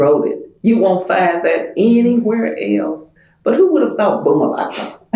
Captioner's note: laughter